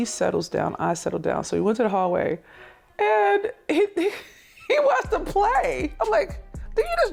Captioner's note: laughs